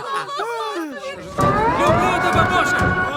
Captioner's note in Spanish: aclaman